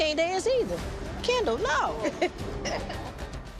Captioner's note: laughing